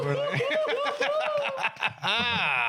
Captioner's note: laughing